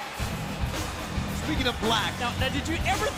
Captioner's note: crowd cheering